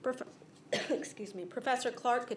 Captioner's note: coughs